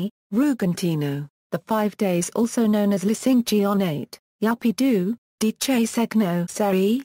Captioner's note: Italian